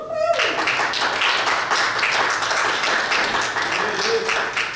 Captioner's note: audience applauds